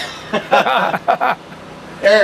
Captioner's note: laughter